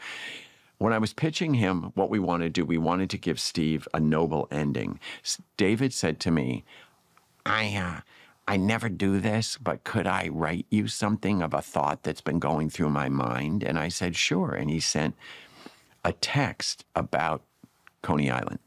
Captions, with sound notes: When I was pitching him what we wanted to do, we wanted to give Steve a noble ending, David said to me, (MIMICS DAVID) "I, uh, I never do this, but could I write you something of a thought that's been going through my mind?" And I said sure. And he sent a text about Coney Island.